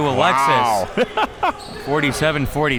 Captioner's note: chuckles